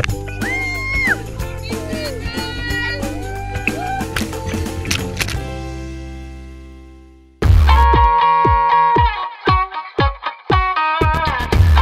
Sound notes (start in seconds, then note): 1.6 cheering; 7.5 upbeat rock and roll music